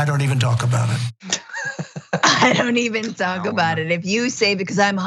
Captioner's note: laugh